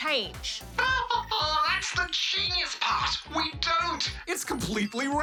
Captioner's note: laughs